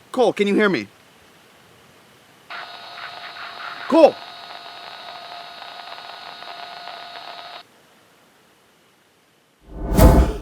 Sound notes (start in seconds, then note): 2.5 radio static